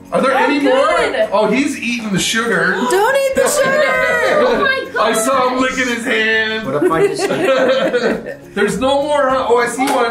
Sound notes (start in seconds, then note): 6.4 group laughs; 6.6 laughs